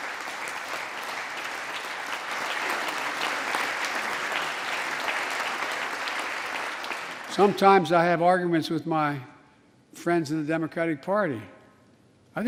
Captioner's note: applause